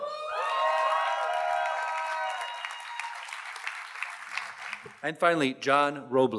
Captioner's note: audience cheers and applauds